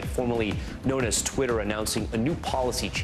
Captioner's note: none